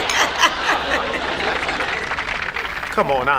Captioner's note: audience applauds